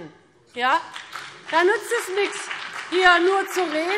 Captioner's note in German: Beifall BÜNDNIS 90/DIE GRÜNEN